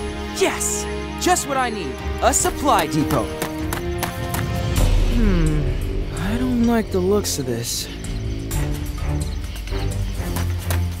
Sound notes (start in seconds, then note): 0.0 triumphant music; 3.7 running